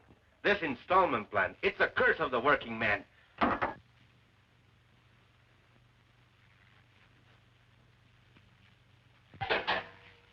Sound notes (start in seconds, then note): 3.4 cup thuds